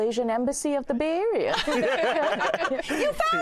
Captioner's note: all laugh